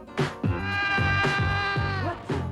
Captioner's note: man screaming